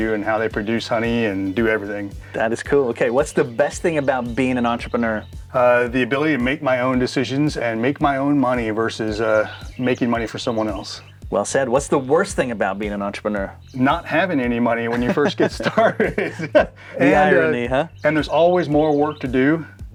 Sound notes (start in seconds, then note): 14.8 laughs